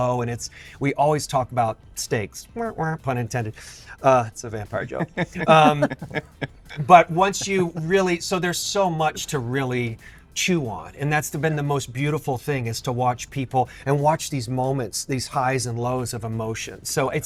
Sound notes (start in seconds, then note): 4.8 laughter